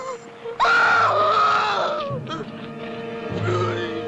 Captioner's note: wailing